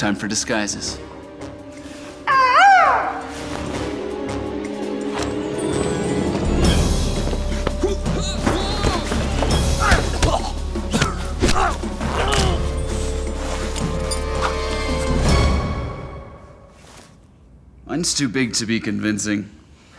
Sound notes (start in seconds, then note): 2.2 makes peacock call; 8.5 yelling